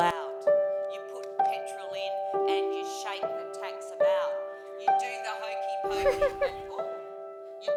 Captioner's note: chuckle